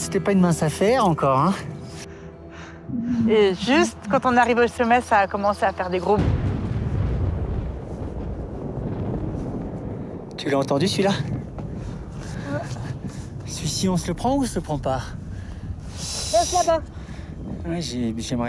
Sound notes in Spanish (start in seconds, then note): 6.1 trueno